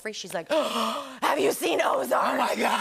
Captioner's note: gasps